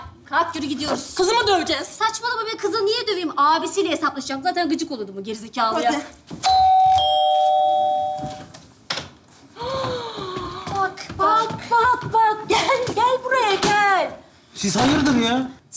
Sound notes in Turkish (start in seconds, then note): 6.4 Zil çalar